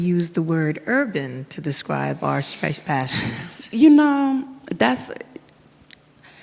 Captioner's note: sighs